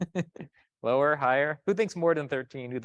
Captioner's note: chuckles